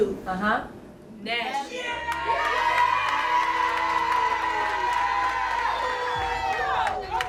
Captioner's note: cheering